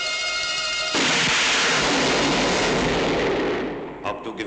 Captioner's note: gun fires